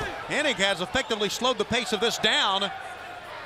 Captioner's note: crowd chatter